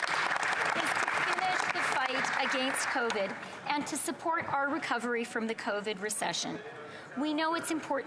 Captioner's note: applause